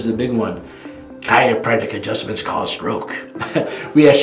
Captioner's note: laughing